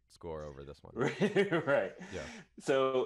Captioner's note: laughs